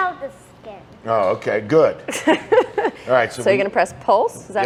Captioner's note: laughs